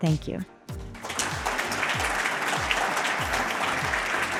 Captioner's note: audience clapping